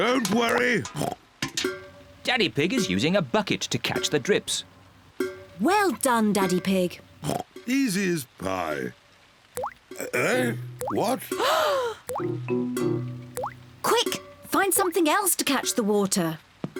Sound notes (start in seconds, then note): 1.3 oinks; 7.2 oinks; 11.4 all gasp